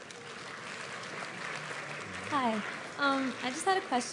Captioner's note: applause